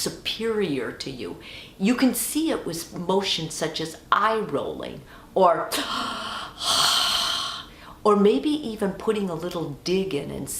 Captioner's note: exaggerated sigh